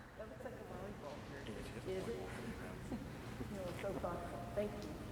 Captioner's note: faintly speaking